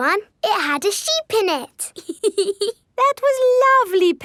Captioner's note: laughs